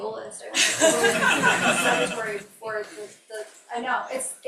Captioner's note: crowd members laughing